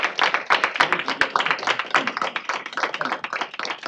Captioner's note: indistinct chatter